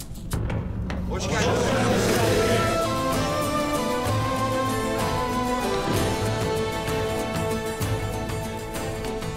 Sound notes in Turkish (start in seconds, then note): 1.2 Hep bir ağızdan